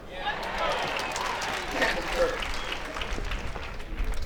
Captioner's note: crowd applauds